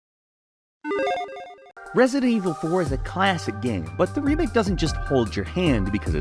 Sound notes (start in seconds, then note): 1.0 pleasant chime